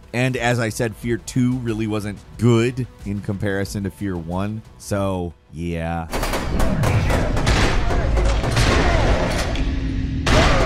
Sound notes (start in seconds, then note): 6.1 gunshots